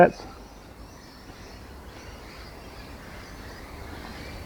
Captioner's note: birds chirping